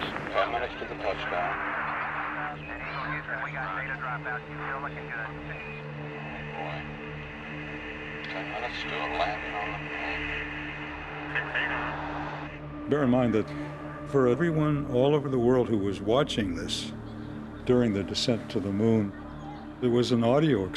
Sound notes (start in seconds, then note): 3.6 people talking on radio